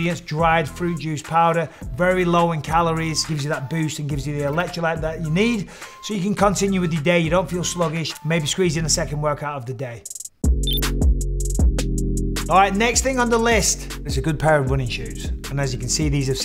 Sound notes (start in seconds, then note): 10.0 relaxed dub music; 10.6 graphic blips